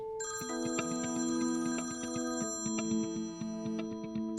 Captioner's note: phone rings